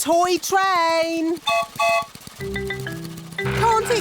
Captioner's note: whistle blows